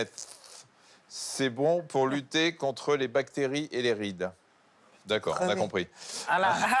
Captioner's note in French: grognement; rires